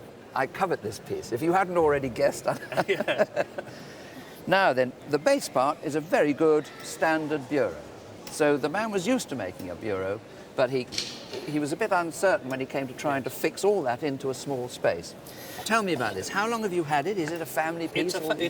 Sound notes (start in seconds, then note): 4.4 both laugh